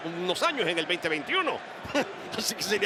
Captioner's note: laugh